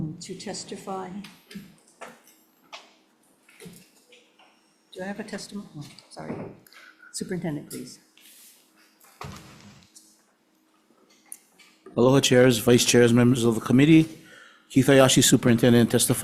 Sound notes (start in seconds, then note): none